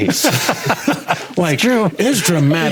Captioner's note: laughing